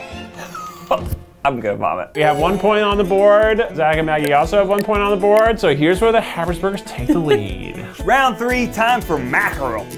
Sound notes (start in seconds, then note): 1.5 exhales